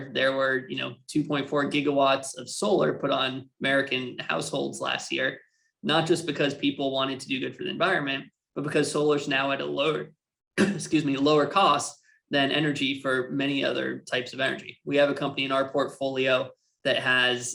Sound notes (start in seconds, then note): 10.6 coughs